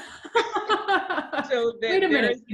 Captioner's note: laughter